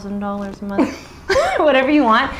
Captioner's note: laughing